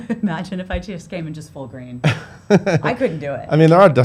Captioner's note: laughs